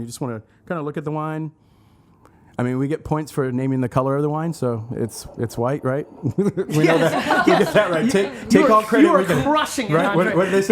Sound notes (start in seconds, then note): 6.3 laughs